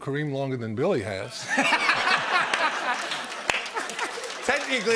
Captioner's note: laughter